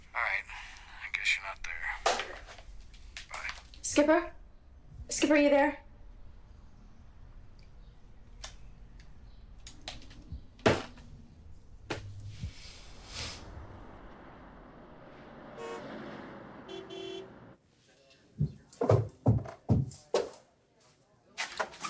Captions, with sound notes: All right, I guess you're not there. Bye. - Skipper. Skipper, are you there? (vehicle engines revving) (car horns honking) (footsteps thudding)